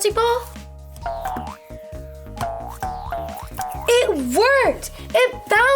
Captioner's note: ball bouncing